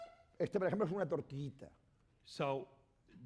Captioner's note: speaking spanish